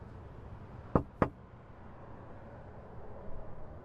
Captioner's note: knocks